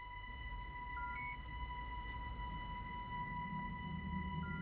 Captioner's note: device beeping